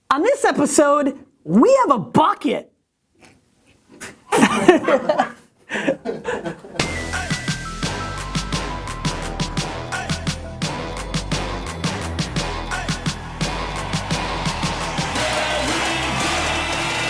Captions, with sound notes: - On this episode, we have a bucket. (laughter) (hip hop music)